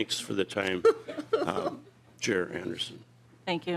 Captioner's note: laughter